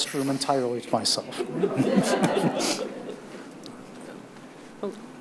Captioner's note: audience laughs